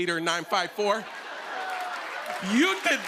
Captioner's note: laughter